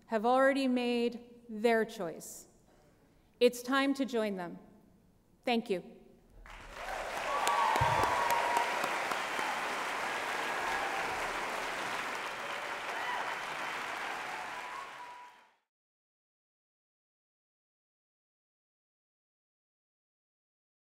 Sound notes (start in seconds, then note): 6.7 applause